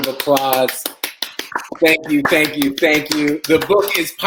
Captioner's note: applause